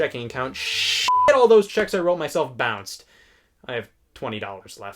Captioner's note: beep